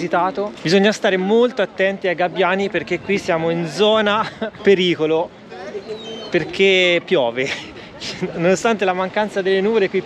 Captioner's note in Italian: risate